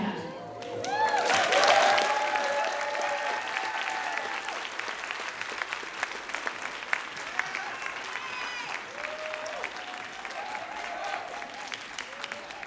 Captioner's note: applause